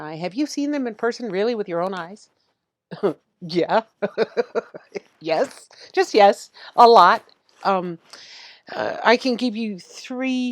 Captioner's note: chuckling